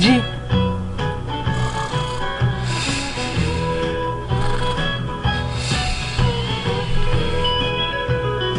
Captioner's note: Mater, Doc, Luigi and Guido snoring